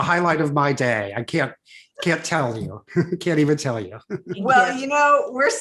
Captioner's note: chuckles